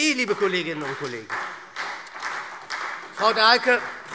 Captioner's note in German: Beifall SPD